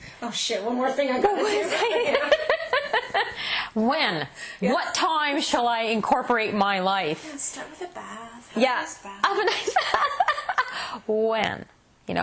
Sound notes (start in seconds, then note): 1.0 laughs; 4.0 laughter